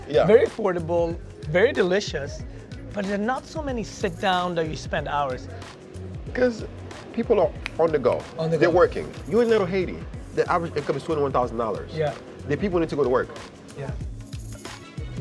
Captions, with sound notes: ...very affordable, very delicious, but there are not so many sit-down that you spend hours in. Because people are on the go. [ Snapping fingers ] -On the go. -They're working. You're in Little Haiti. The average income is $21,000. Yeah. The people need to go to work. Yeah.